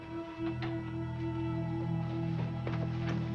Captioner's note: door closing